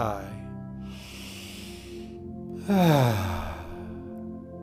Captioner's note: breathing deeply